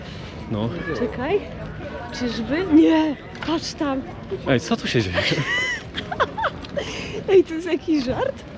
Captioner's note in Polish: śmiech